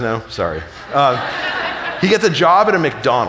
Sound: audience laughing

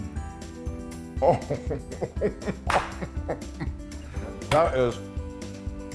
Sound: laugh

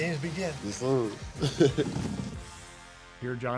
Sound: chuckles

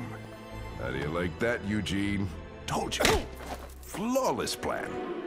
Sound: slapping back

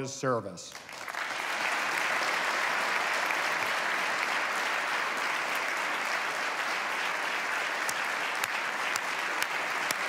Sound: applause

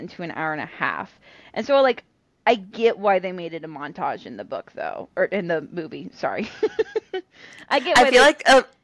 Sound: laugher

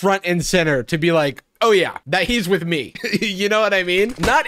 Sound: laughs

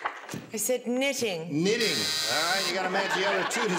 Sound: buzzer

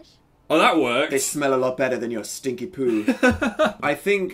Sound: laughs

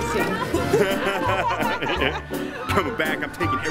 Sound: laughing

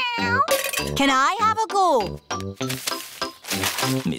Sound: meows

